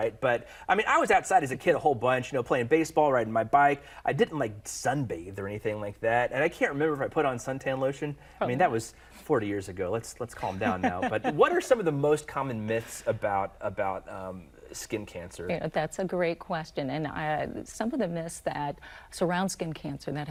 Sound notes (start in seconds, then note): 10.4 woman laughing